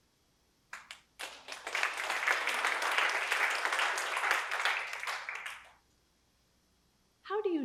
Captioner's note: applause